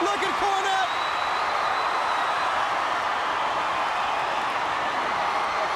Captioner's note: audience clamoring